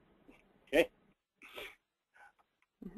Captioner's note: laugh